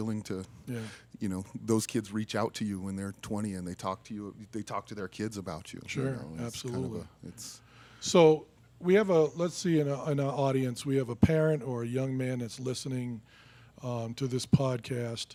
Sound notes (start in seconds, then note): none